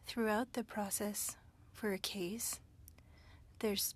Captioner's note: speaking french